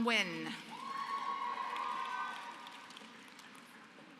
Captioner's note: applause